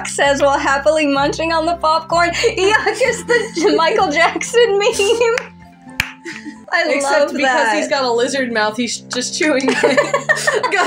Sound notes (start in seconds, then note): 2.5 laughing; 6.2 giggling; 9.7 laugh